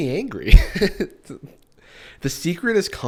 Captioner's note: chuckles